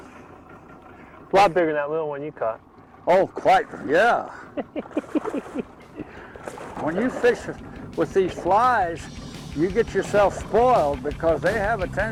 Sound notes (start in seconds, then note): 0.0 fish splashing; 4.2 laughing; 4.7 fish splashing